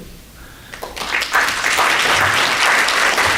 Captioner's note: clapping